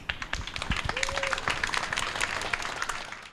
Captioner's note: applause